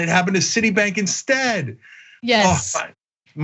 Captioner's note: laugh